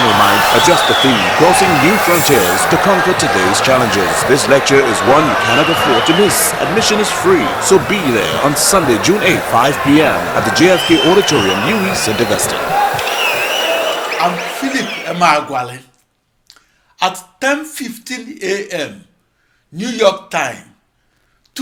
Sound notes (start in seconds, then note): 10.0 wild applause and cheering for 22 seconds